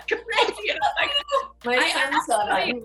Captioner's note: laughing; laughs